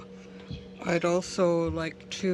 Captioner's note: speaking French